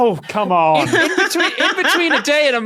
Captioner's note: cackles